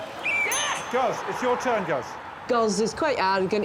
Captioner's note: whistle blows; bell dings